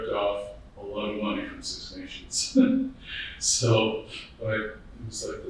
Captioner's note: laughing